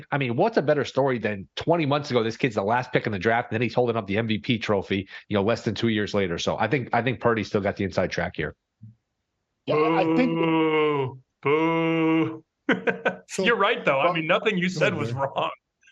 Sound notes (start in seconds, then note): 11.4 booing